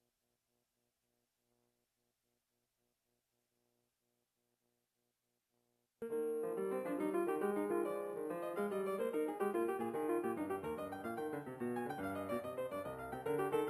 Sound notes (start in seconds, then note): none